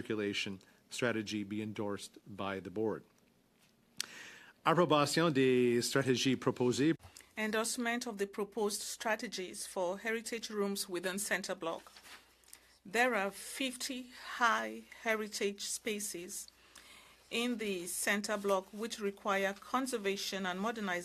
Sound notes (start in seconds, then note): 9.8 speaking French